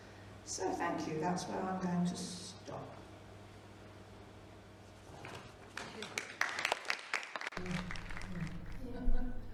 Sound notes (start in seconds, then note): 5.7 applause